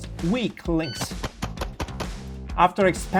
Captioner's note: gun booming